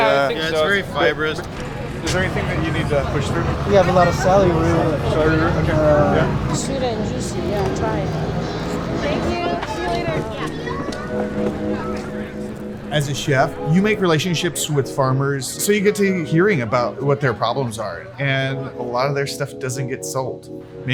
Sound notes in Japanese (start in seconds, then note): 11.0 常連客のおしゃべり; 11.0 穏やかな音楽